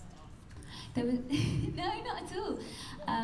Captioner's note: laughs